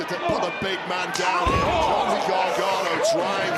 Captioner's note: body thudding